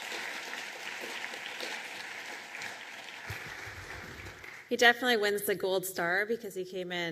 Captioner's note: applause